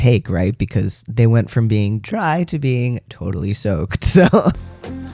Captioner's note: laugh